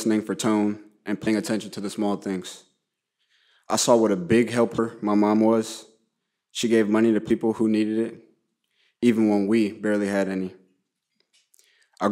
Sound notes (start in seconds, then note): none